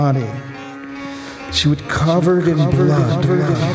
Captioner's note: echoing